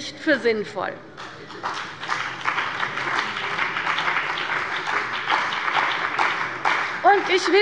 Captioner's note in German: Beifall bei der CDU und dem BÜNDNIS 90/DIE GRÜNEN